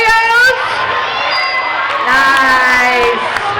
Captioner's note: dinging